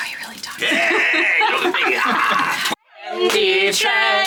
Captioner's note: grumbling; group laughing